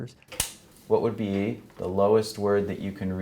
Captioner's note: light clicks